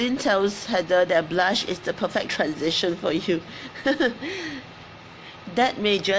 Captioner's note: laughs